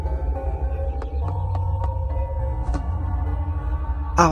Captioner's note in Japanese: ベッドに横たわる音：ポスッ